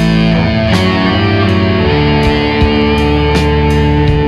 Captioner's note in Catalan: augh